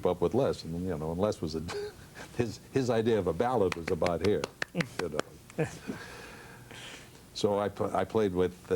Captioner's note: claps